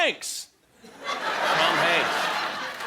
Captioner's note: laughter